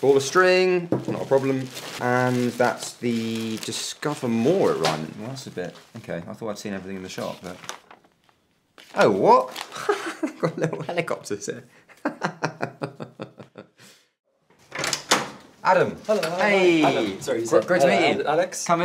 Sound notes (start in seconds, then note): 9.7 laughs; 14.6 door unlocking